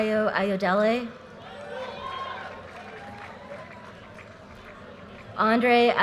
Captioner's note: audience cheers and applause